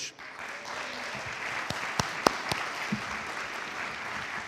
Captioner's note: audience applauds